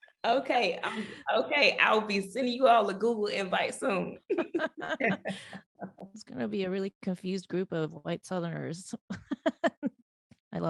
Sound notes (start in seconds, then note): 4.3 laughing; 9.1 laughing